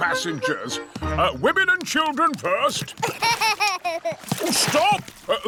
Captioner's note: laughs